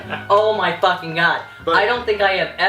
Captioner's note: laughs